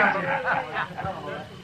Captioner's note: all laugh